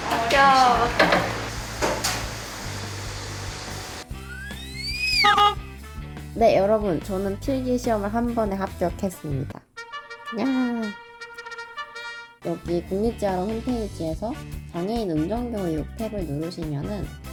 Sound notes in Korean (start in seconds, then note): 4.4 경적 소리; 4.4 전동 휠체어 소리